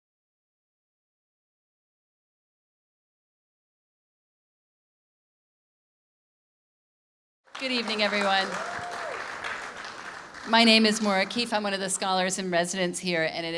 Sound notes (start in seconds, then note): 7.4 audience clapping